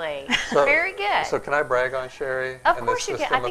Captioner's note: laughing